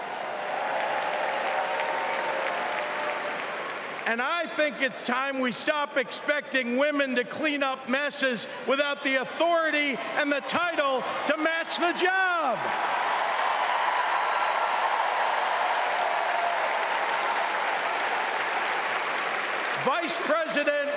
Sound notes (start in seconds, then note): 3.0 cheering; 20.3 cheering